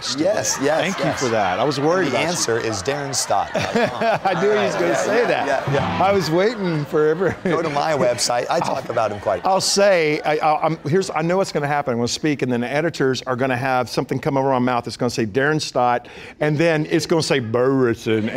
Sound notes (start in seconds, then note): 0.4 laughter